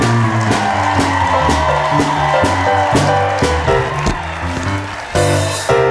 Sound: upbeat music; audience cheering

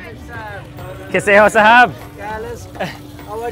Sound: speaking in foreign language

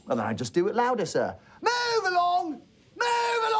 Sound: shouting

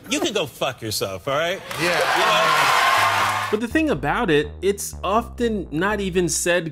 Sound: crowd applause

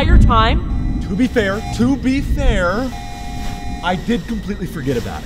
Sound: thunder rumbling

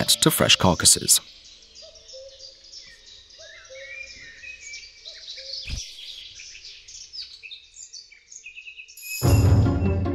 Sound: birds singing; dynamic music

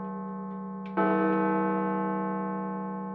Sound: chime

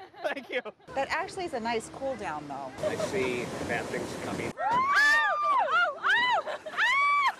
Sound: laughter

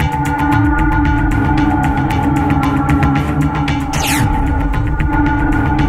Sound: preaches over phone

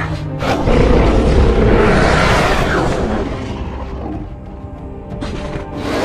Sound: carnotaurus Roars

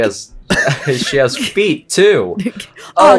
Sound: giggles; giggle

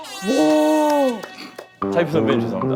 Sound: laughing

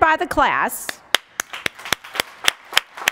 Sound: applause

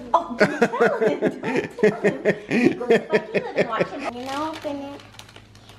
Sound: laughing

